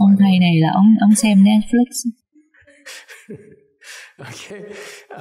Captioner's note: laughter